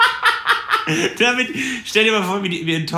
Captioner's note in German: Lacher